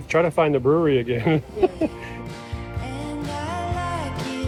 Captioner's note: chuckling